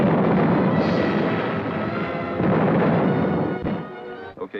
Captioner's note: cannons blasting